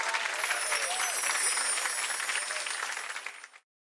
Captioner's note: chimes tinkling